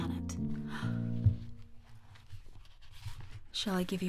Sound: gasp

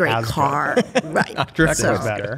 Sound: laughter

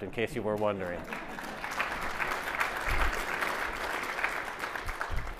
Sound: audience applauding

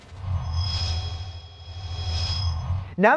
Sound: sound Effects

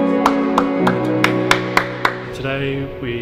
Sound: people clapping

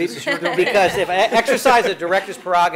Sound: all laugh

